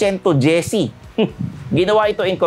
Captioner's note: scoffs